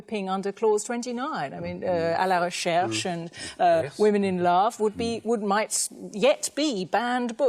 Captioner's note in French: NON-anglais discours